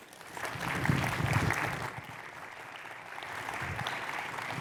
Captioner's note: audience applauding